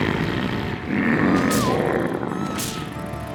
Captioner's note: dragon snoring loudly; crack!